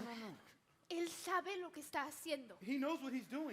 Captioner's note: speaks in Spanish